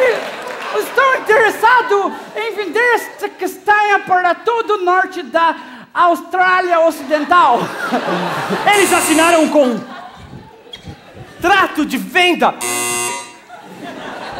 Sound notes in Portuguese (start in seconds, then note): 8.9 campainha; 12.6 campainha